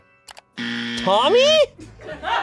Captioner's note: buzzer